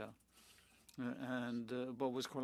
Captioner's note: speaking French